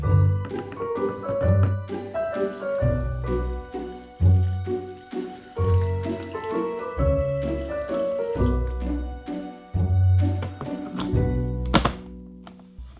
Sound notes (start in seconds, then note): 3.4 liquid pouring; 11.6 lid snapping